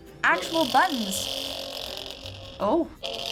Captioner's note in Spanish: zumbido